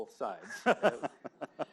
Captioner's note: laughs